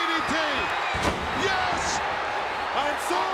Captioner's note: bodies thud